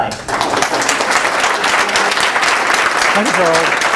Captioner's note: applause